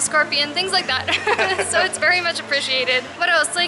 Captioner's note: laughter